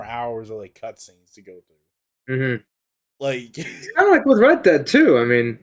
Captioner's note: laughs